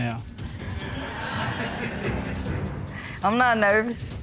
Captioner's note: audience laughing